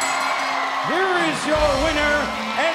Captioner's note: bell ringing